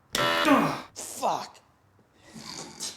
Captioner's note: machine blaring; grunting